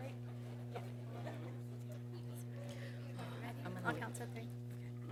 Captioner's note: people chattering